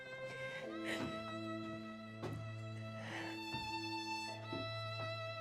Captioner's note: sobbing